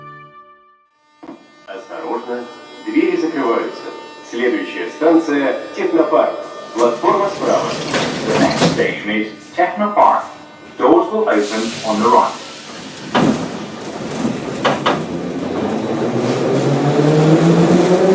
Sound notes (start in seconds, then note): 6.5 closing doors; 13.0 train leaves to the next station